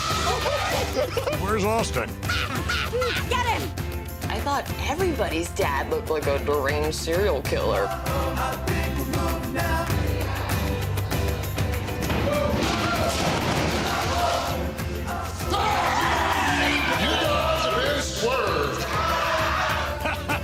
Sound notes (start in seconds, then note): 2.2 laughter; 15.5 screaming